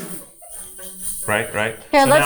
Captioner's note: hip scarf jingling; crew member chuckling